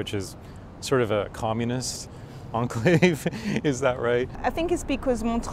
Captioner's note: laughs